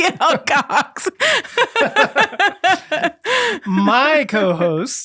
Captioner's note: both laughing